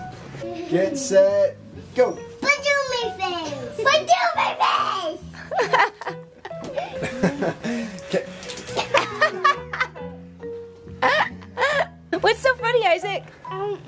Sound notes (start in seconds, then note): 2.5 children babbling gibberish; 6.4 laughing